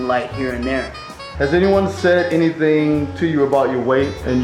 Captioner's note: voiceover